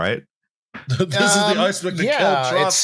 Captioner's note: announcer voice